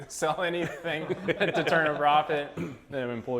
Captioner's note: laughs